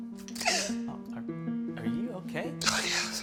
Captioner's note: man cries